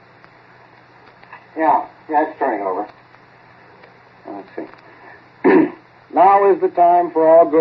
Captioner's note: clears throat and recites